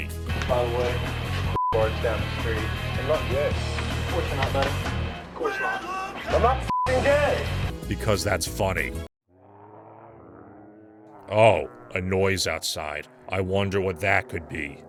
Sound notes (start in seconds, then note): 9.0 muffled zombie noises